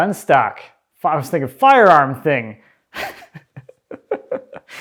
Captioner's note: laughs